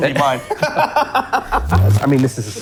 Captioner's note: laughs